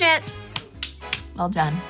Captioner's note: clapping